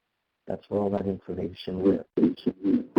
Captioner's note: noise distortion